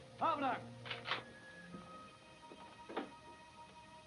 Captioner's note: clics de pistola